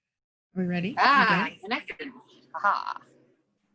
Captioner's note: chuckles